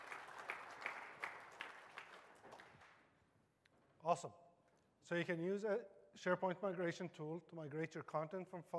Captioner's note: applause